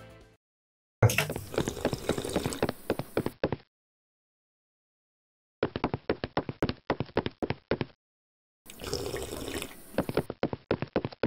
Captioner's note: drinking; steps